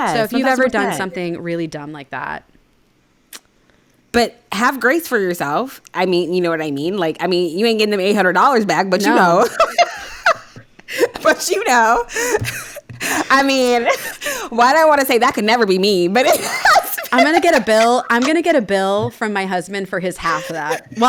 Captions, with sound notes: So if you've ever done something really dumb like that. - But have grace for yourself, I mean, you know what I mean? Like, I mean, you ain't getting them $800 back, but you know. (laughing) But you know, I mean, why do I wanna say that could never be me, but it has been. - I'm gonna get a bill. I'm gonna get a bill from my husband for his half of that.